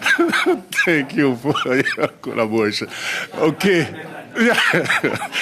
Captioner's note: laughter